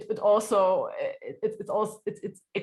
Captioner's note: laughs